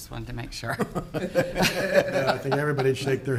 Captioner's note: all laughing